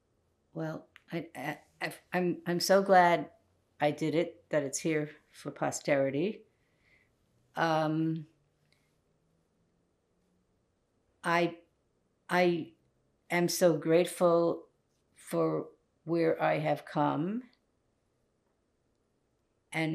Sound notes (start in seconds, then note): 8.2 pauses 6 seconds